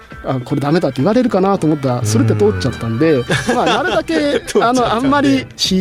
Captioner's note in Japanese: 笑い